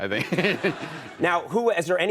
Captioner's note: audience laughs